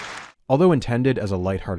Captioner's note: massive applause